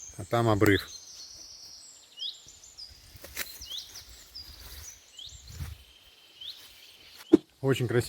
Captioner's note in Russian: пение птиц